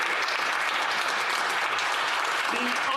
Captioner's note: speaking French